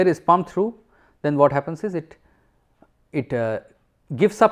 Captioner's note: air conditioning